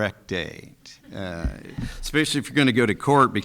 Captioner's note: people chuckling